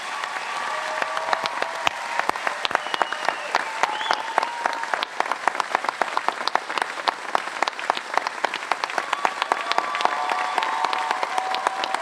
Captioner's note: cheers and applause